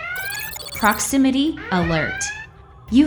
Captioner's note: proximity alert sounds